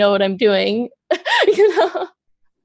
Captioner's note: laughs